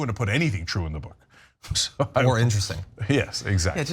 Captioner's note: laugh